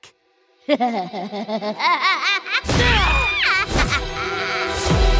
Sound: maniacal laughing, Steven grunting as he grabs the rod

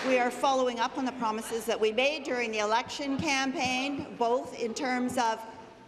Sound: applause

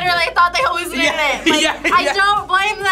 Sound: laughs

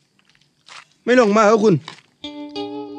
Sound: southern dialect

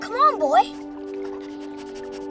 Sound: sniffing

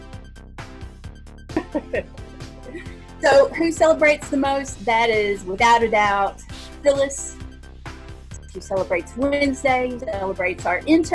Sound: laughing

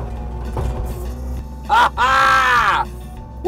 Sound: laughing

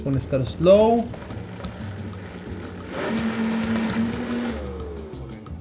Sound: food processor whirs

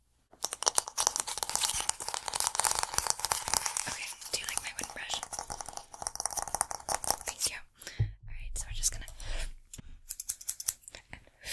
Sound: mouth and Hand Sounds

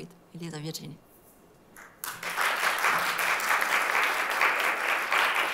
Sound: applause

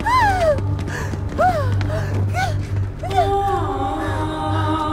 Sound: Sandra screaming and crying

